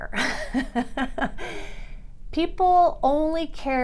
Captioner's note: laughs